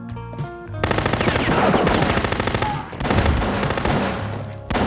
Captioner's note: machine gun firing